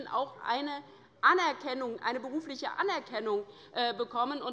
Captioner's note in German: none